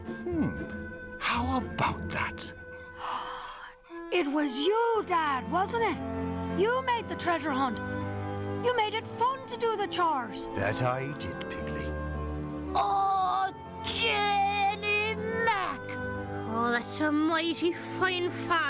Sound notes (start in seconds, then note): 2.6 gasps